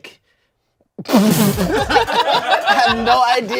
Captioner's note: everyone laughs